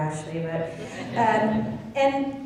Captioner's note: laughing